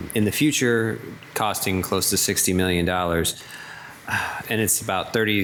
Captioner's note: sighs